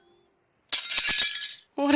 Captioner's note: glass breaks